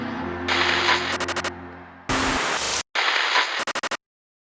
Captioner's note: static crackles